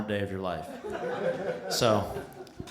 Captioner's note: laughter